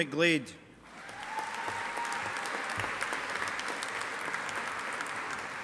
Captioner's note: audience applauding